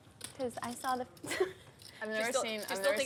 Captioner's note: laughs